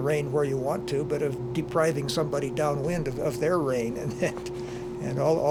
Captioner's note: chuckles